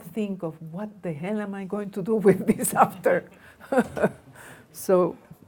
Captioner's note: laughs